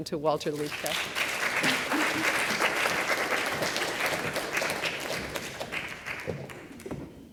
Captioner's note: applause